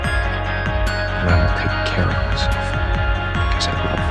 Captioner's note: voiceover